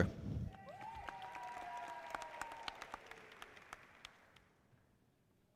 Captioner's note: audience applauding